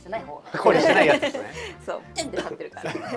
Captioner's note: laughs